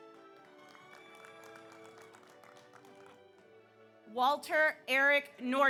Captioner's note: audience applauds; audience cheers